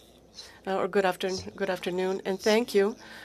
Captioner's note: speaking French